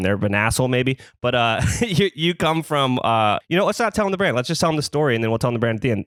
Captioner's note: laughs